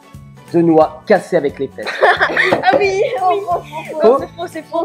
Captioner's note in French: rires